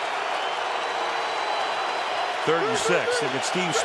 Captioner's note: cheering